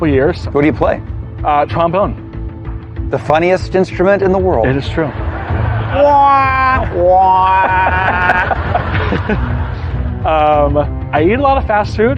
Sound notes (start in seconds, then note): 4.7 audience laughing; 6.4 imitates trombone